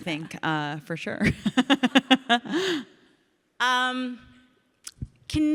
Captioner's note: Ilana and audience laugh